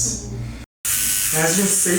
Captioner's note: pen buzzes